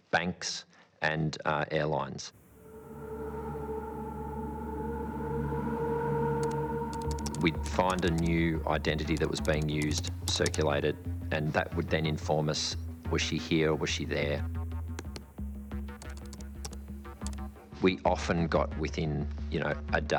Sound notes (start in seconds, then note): 2.6 eerie music; 2.6 keyboard keys clicking; 14.6 curious music; 15.9 keyboard keys clicking